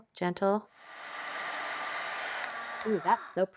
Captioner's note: blow dryer whirring